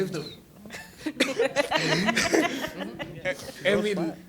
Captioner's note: laughter